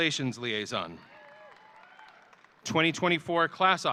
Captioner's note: audience cheering